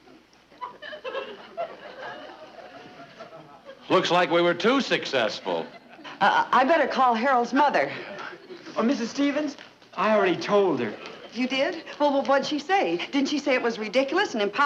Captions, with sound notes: (audience chuckling) - Looks like we were too successful. - I better call Harold's mother. - Oh, Mrs. Stevens, I already told her. - You did? Well, what'd she say? Did she say it was ridiculous and impossible?